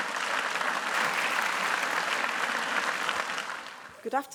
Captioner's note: applause